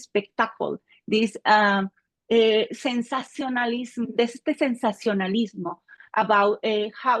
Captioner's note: speaking Spanish